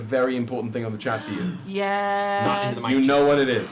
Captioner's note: gasps